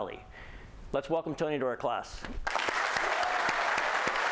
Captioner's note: applause